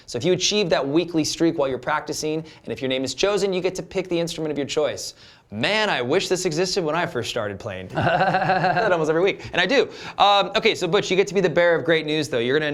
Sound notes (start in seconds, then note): 7.9 laughter